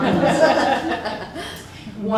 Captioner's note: laughter